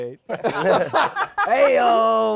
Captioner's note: laughter